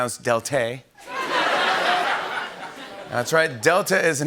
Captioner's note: laughter